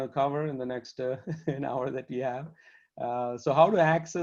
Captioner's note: laughter